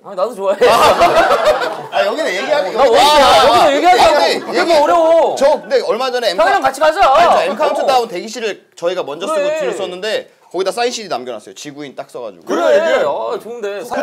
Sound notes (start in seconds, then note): 0.6 laughing